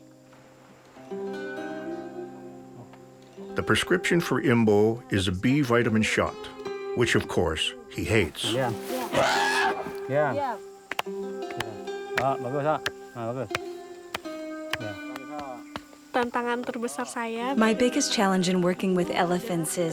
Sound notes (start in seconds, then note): 8.4 elephant trumpets; 11.3 speaking in foreign language